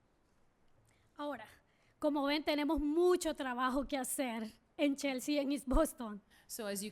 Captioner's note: speaking spanish